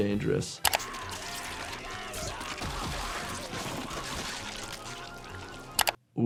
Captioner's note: axle squelches; Shifty screaming